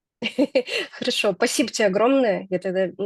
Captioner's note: chuckles